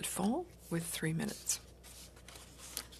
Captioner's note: speaking in French